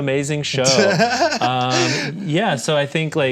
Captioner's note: laughs